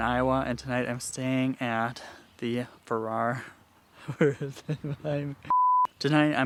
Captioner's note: chuckling, speaking indistinctly; "no signal" tone beeps